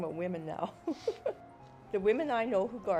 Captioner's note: laughs